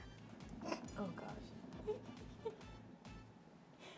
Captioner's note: giggles